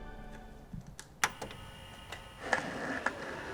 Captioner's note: tape humming; skateboard rolling